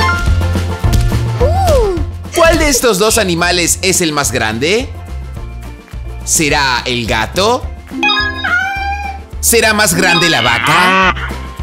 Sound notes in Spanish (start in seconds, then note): 8.3 Sonido de gato